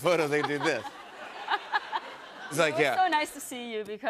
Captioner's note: laughter